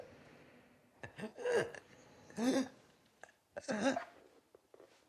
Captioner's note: Betty gasping